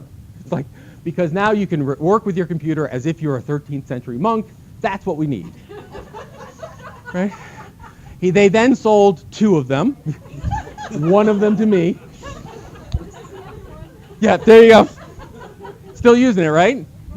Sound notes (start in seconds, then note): 5.4 laughter; 9.9 laughter